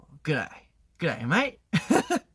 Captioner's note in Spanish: acento australiano